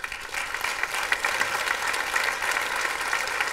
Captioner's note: applause